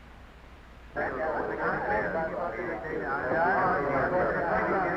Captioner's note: chattering